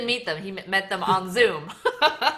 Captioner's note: laughs